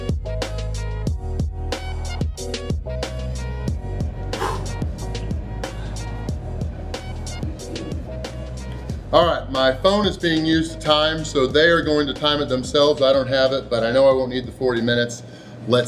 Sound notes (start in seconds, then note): 4.3 exhales forcefully